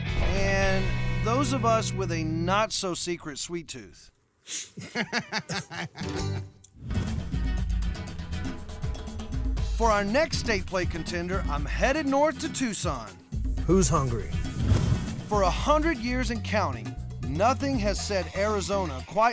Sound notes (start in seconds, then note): 4.5 blows; 4.6 laughing